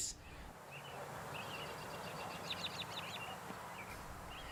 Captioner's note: bird song